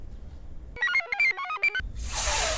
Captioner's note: computer chirps